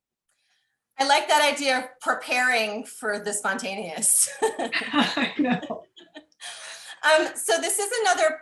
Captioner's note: laughing